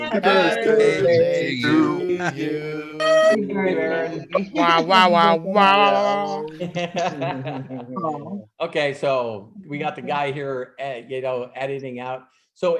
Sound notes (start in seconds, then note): 3.2 laughing; 6.9 laughing